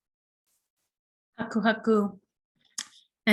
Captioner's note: non-english speech